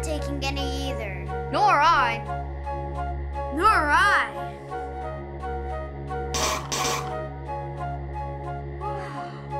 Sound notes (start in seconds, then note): 6.3 spitting